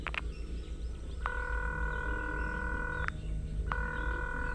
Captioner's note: line ringing